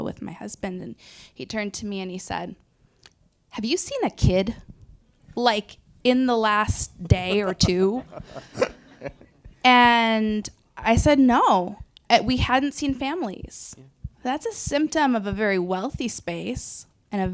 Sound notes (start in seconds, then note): 8.5 panelists and audience laughing